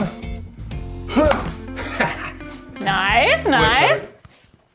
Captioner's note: chuckles